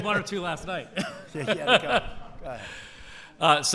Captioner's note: laughter